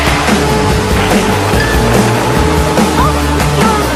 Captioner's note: crash!